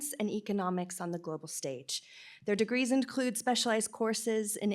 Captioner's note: none